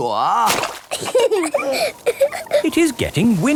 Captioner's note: both laughing